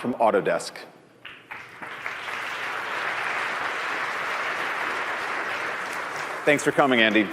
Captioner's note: applause